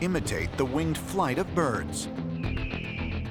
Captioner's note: bird screeches